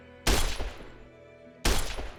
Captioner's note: glass Breaking; gunshot; glass Breaking